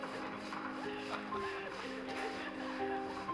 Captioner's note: público ríe